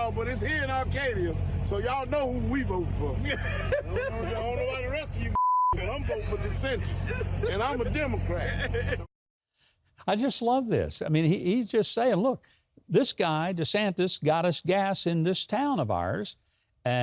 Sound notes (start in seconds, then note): 3.2 laughter; 5.3 beep; 8.5 laughter